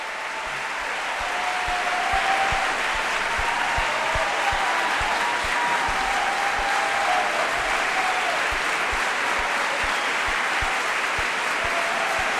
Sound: applause

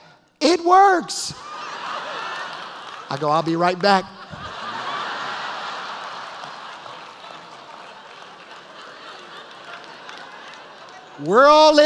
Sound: laughter

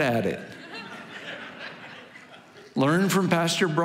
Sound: congregation laughing

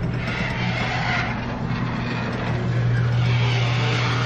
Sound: garage door screeching

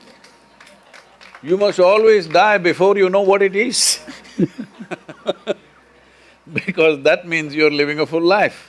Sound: few laugh

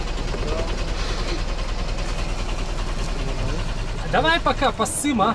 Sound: работает стартер

